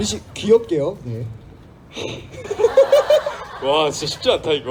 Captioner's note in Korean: 웃음